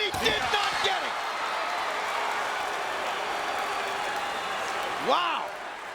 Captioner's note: applause